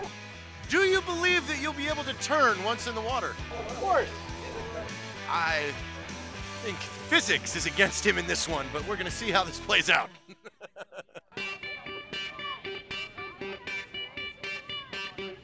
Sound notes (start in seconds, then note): 10.1 laughter